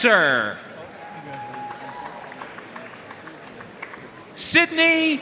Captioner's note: audience cheering and applauding